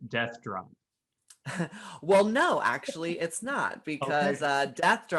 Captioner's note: chuckles